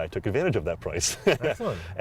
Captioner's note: laughter